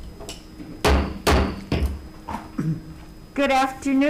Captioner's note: gavel tapping